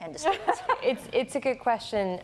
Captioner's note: laughter